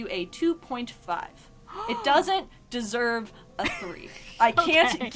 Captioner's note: gasps; laughs